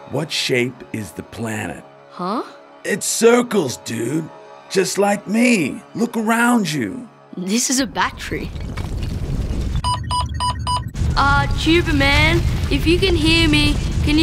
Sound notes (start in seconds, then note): 8.0 ground rumbling; 9.8 beeping intensifies